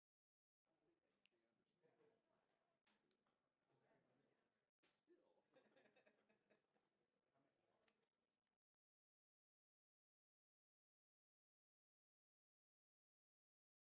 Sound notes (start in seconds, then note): 5.6 woman laughs